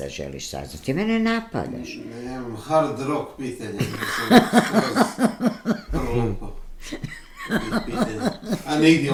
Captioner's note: laughter